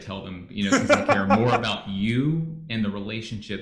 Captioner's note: laughs